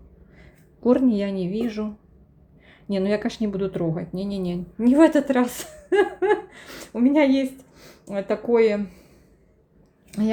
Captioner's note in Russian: смех